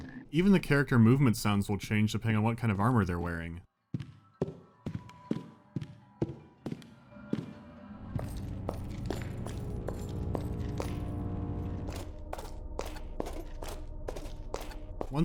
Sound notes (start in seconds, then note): 4.3 only footsteps are heard; 8.1 footsteps and ringing of chainmail; 11.7 footsteps and clanking of armor plates